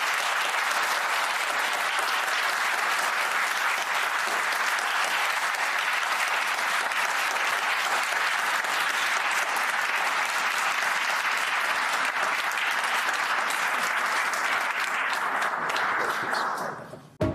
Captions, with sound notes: JACKSON TO THE COURT AND TO OUR COMMON CALLING. COMMON CALLING. [ APPLAUSE ]